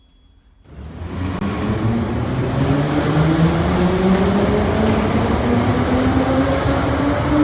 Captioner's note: train leaves to the next station